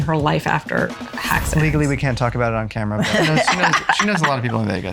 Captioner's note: laughs